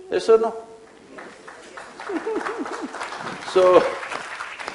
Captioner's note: applause